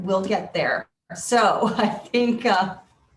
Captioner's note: laughing